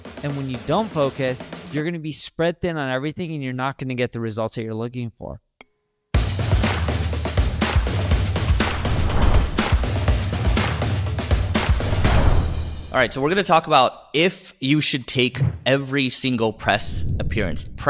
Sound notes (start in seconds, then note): 5.6 dramatic music continues; 5.6 bell dinging